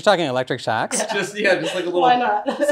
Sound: laughs

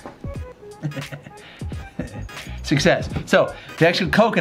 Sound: laughs

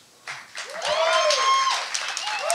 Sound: audience claps and cheers

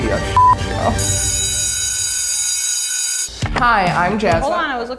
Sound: beep; bell ringing

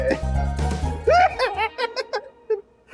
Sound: laughs

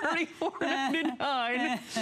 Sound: laughter

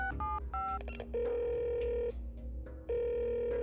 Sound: telephone dialing; telephone ringing

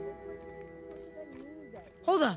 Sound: indistinct chattering

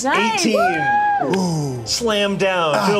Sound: cheers

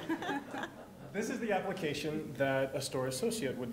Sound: laughter

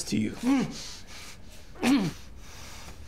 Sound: groans

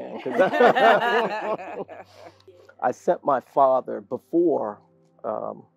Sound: laugh

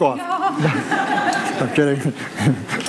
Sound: audience laughs

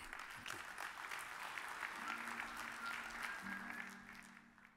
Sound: audience applauds

